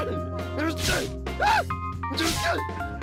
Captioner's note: shouts